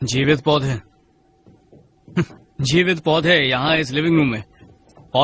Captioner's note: scoffs